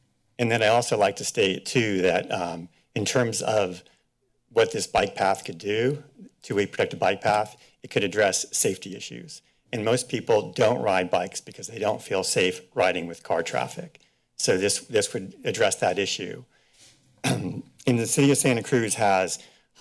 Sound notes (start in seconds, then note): 17.2 clears throat